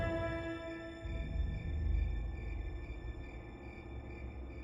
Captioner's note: crickets in the distance